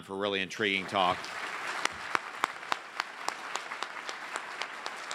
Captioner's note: audience applauds